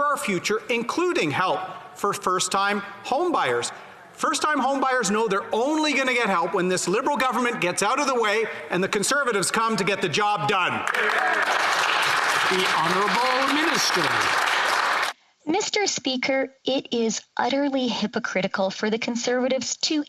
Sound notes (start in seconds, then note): 14.4 some Applause